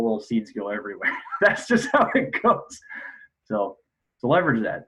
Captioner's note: laughs